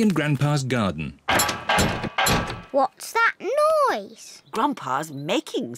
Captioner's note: clattering and clanging